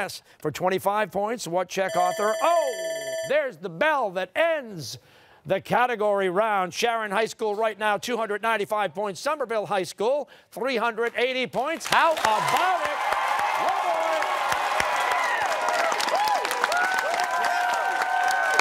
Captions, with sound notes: >> Kafka. >> Yes. For 25 points, what Czech author... (timer sounding) Oh! There's the bell that ends the category round. Sharon High School right now, 295 points. Somerville High School, 380 points. How about it? One more!